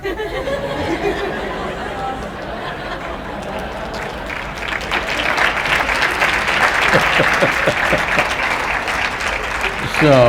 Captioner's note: laughter/Applause